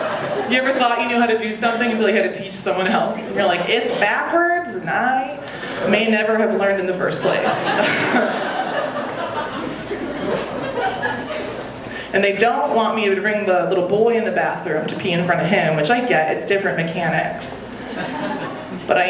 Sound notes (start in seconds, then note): 0.0 audience laughing; 7.2 audience laughing; 7.4 chuckles; 17.7 audience laughing